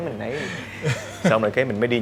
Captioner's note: laugh